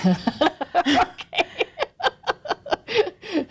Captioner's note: laugh